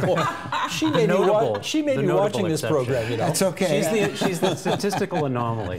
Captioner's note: laughter